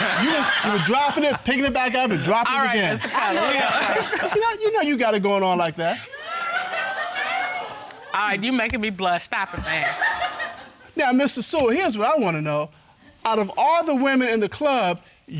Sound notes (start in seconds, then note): 6.0 audience laughs